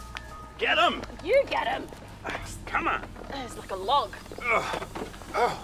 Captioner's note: mixed grunting